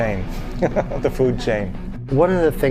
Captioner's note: giggling